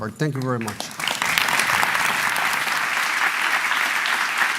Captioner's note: applause